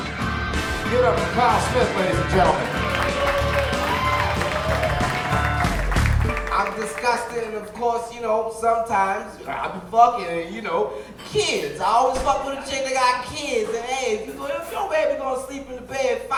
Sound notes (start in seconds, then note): 0.1 guitar riff; 4.1 audience applauding